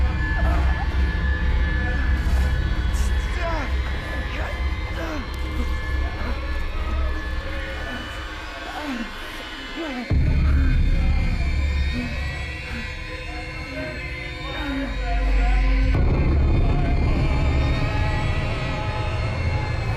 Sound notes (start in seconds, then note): 4.5 Clint groaning softly; 4.5 soft intense music; 14.5 muffled 1920's music; 14.5 soft intense music